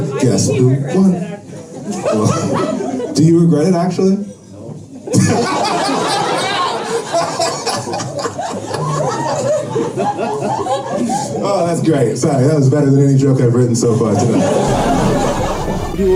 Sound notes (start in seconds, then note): 5.1 laughter